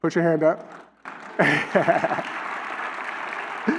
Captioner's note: applause